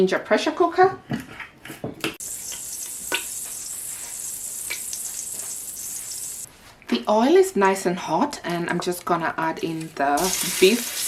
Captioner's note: sizzling sounds